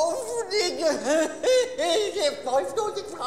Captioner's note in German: pseudoheult